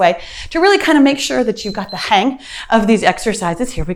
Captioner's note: timer beeps